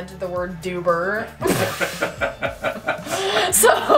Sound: laughing

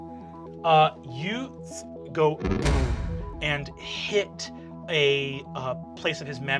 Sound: banging

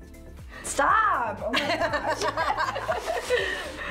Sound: both laugh

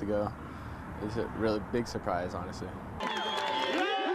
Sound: applause and jubilation

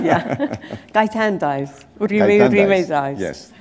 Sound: chuckle

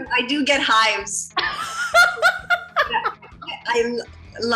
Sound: laughing

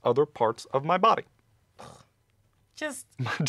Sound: disgust noise; laughs

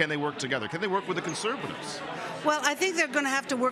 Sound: none

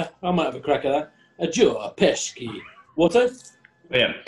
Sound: odd accent

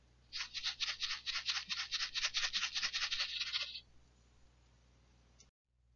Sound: shaking sound

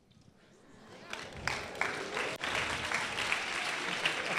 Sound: applause

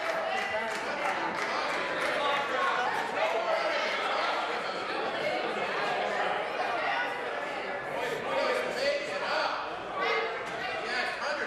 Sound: applause

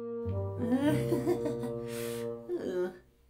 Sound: nervous worried chuckle

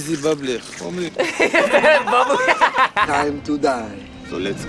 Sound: laughs

